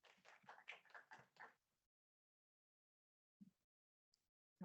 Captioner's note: attendees clapping